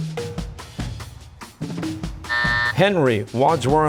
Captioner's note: buzzer